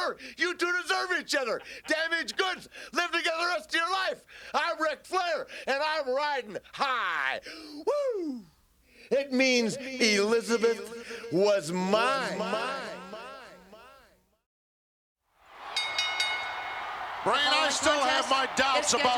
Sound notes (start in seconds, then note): 9.4 echoing; 15.6 bell ringing